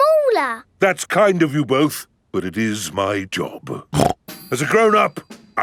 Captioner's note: snorts